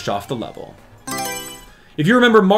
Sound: Mario Selection Sound

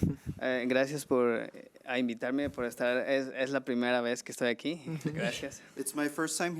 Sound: man speaking foreign language

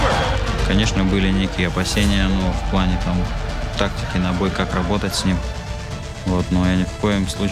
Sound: Yan speaking Russian

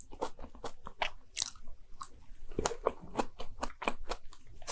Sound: eating

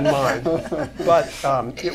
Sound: laughter

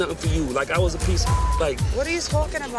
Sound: beep sound

